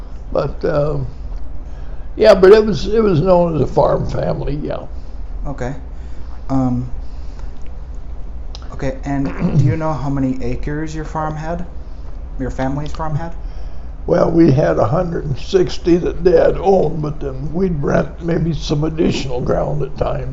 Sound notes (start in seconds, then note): 6.7 clears throat